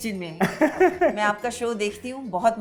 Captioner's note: chuckles